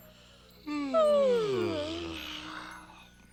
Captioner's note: yawning